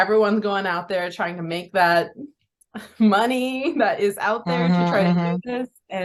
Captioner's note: laughs